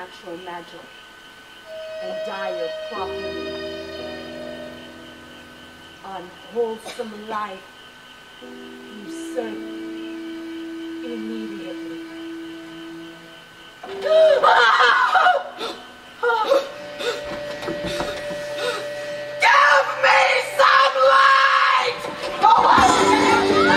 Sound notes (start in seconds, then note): 14.4 Player King screams